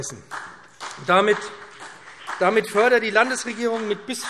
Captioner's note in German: Beifall BÜNDNIS 90/DIE GRÜNEN